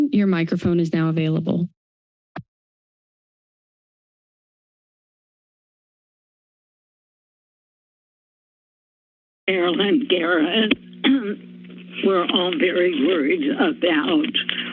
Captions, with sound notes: your microphone is now available. [MIC TURNED ON] [SILENCE] - Marilyn Garrett. [CLEARS THROAT] We're all very worried about